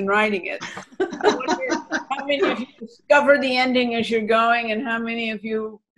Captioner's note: laughter